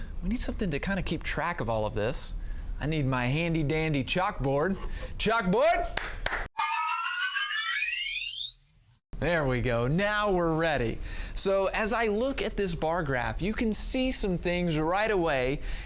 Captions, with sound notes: We need something to kind of keep track of all of this. I need my handy dandy chalkboard. Chalkboard. (claps) (whimsical sound) There we go. Now we're ready. So as I look at this bar graph, you can see some things right away